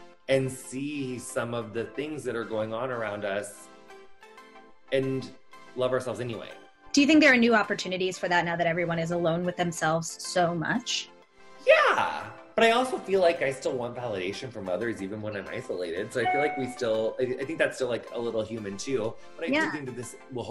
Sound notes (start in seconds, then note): 16.2 phone notification